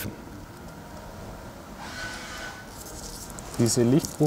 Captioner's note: distant engine noise